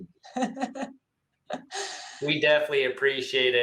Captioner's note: laughs